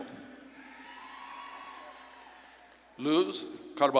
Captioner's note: audience claps and cheers